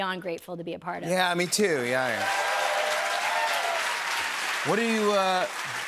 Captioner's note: cheers and applause